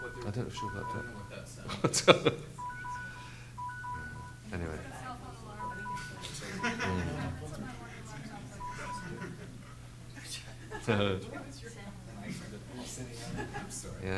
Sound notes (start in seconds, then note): 2.5 beeping; 6.4 everyone laughing; 6.5 lady speaking off mic